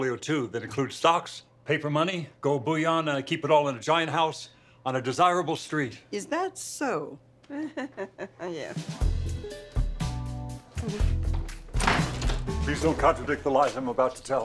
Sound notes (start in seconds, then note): 7.4 chuckles nervously; 10.7 chuckles; 11.2 door opens; 12.2 chuckles